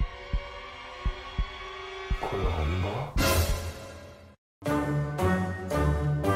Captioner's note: heartbeat